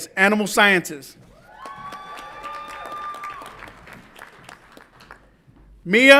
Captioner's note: audience applauds and cheers